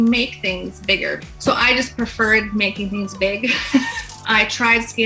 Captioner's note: laughs